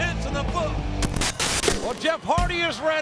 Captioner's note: screen hisses